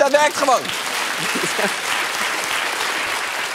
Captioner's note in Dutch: applaus